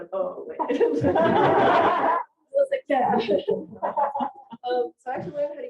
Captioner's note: audience laughing